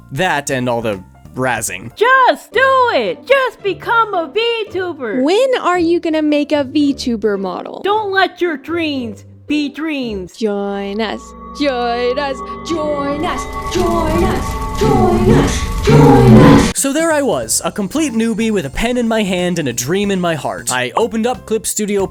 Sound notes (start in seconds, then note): 12.9 voice slowly becomes more twisted